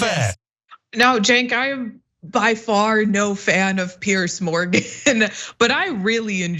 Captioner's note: laugh